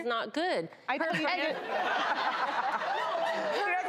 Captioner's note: audience laughs